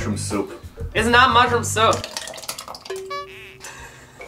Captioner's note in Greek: υγρό ήχο splatting